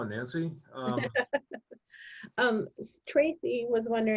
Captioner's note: laughing